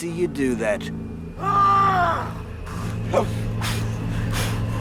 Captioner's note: fighter yelling; dramatic music